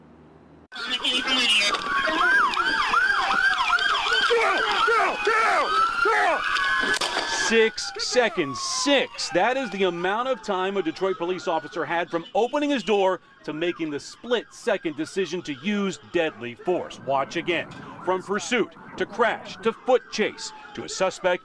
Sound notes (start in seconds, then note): 6.5 sirens